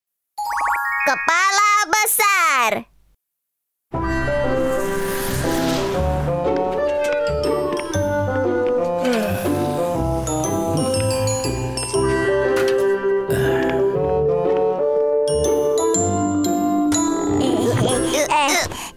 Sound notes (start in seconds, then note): 0.4 chimes ringing; 4.0 mellow music